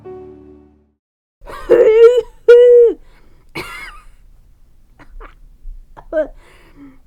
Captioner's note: big Cough; small cough